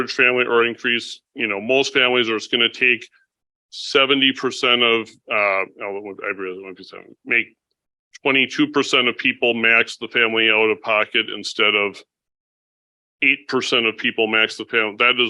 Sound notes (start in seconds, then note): 5.3 mumbles